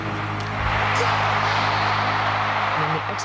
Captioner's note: crowd cheers